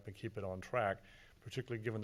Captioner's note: none